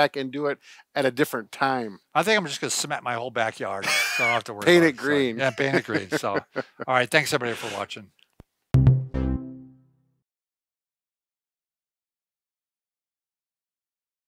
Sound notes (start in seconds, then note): 3.8 laughs